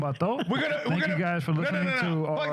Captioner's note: speaking In Foreign Language